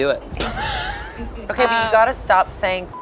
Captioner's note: laughs; beep